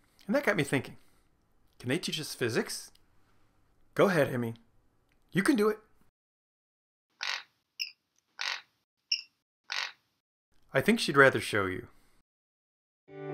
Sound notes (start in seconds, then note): 8.4 cute bird noises